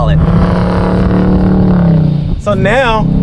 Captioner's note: revving